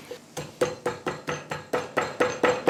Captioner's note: tapping